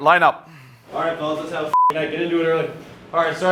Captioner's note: beep